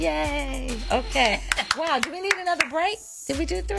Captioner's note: claps